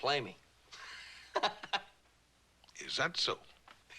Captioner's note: laughs